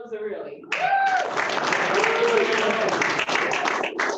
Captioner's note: applause